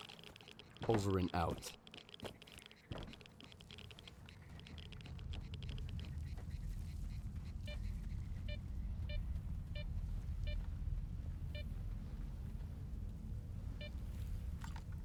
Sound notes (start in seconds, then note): 4.3 beeping